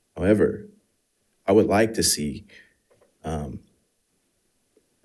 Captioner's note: none